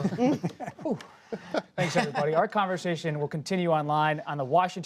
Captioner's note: laughter